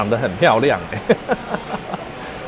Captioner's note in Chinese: 笑聲